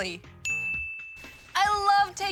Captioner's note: ting!